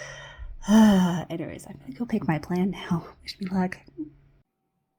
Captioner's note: sighs